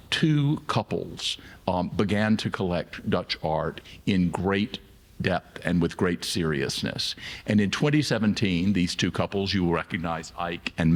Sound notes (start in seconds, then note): none